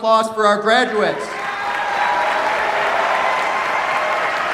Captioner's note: cheers, applause